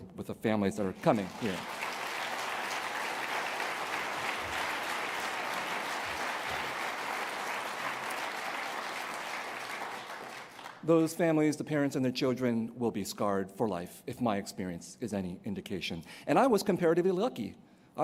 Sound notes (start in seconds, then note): 1.9 applause